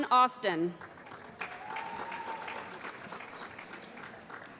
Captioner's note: applause